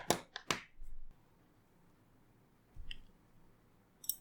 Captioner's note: awkward silence